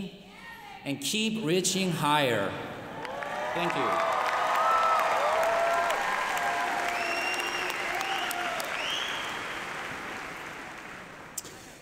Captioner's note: applause